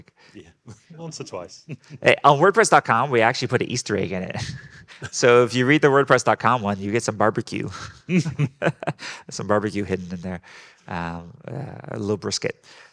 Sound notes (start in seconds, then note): 7.7 group laughing